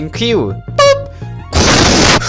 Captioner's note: pop